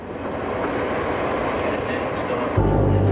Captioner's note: plane noise